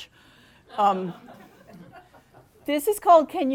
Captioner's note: audience laughing